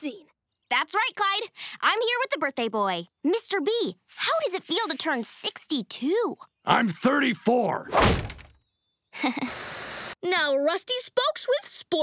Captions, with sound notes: That's right Clyde, I'm here with the birthday boy. Mr. B, how does it feel to turn 62? I'm 34! [door slamming] [laughing awkwardly] Now Rusty Spokes with sports.